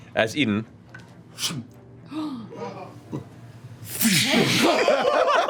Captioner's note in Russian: свист болта